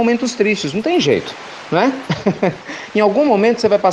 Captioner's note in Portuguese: Risos